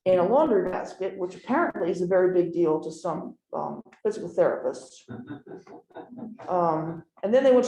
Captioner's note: laughter